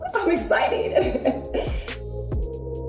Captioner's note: giggles; instrumental hip hop music